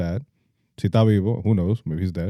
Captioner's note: speaking In Foreign Language